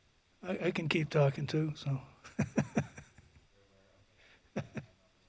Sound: laughing

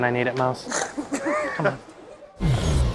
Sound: laugh; dramatic music

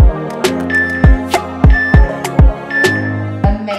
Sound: timer beeping

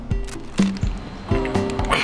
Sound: straining

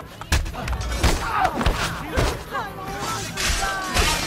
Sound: fighting sounds

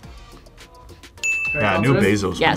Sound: bell rings

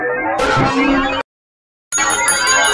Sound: noise paused

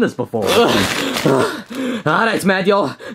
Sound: Luigi grunting and panting

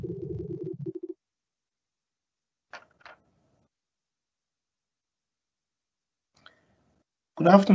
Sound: silence

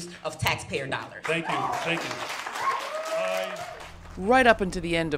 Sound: audience applauds

